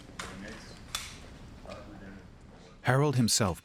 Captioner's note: background talking